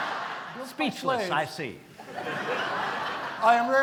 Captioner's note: laughter